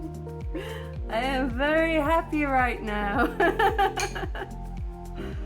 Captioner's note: laughing